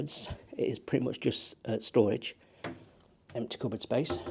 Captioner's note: door clicking